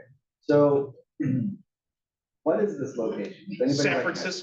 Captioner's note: cough